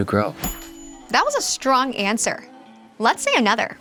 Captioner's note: bell dings